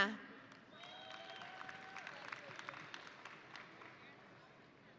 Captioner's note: audience applauding